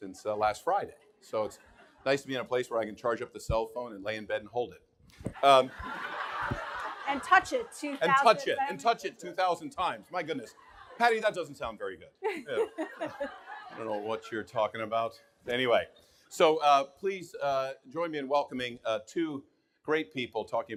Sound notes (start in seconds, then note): 0.6 audience laughing; 5.4 audience laughing; 12.3 everyone laughing